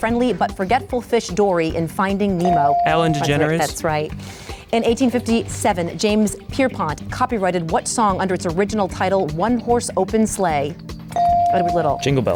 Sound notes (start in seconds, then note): 2.4 bell dings; 11.1 bell dings